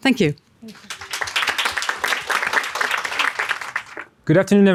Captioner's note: audience clapping